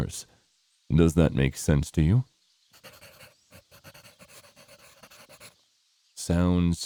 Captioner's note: pencil scribbling